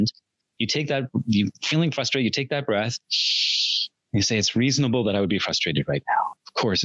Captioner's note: inhales